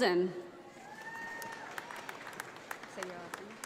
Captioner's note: audience applauding